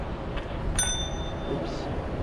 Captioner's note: ding